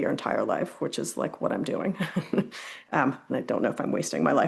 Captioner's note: chuckles